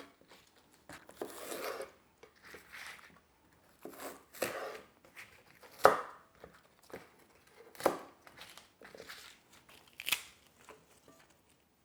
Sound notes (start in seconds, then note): 1.1 knife thumping; 8.2 bok choy rustling